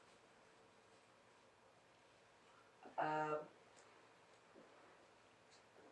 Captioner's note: pauses 10 seconds